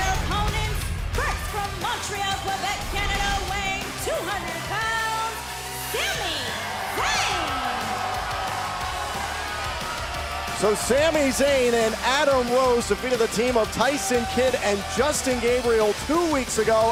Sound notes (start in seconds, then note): 10.5 cheers & applause